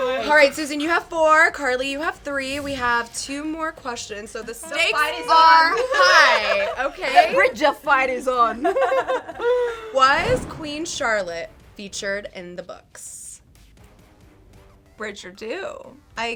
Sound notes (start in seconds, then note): 4.6 giggles; 8.5 all giggling; 14.3 intense music